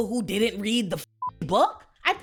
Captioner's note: beep